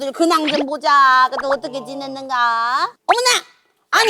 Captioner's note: chewing